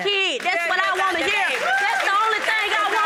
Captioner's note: audience cheering